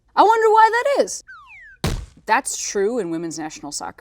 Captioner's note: garbage bag crashing